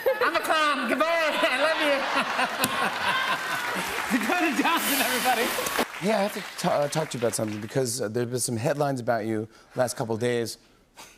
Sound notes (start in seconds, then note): 1.4 laughter